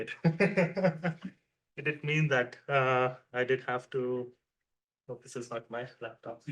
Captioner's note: laughs